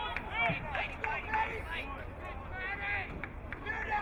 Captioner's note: crowd cheering